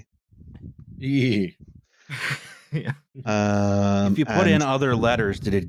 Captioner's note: laughs